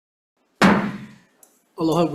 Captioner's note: gavel bangs